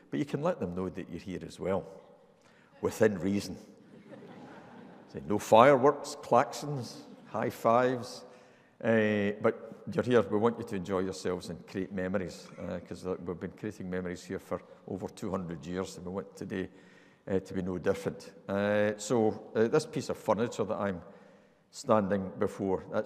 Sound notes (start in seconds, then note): 3.8 audience laughing